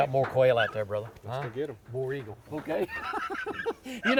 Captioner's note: laughs